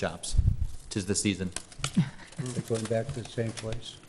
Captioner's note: chuckling